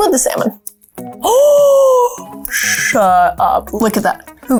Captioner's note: gasps